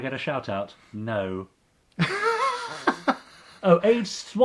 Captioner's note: laughing